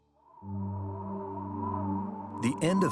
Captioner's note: wind whistling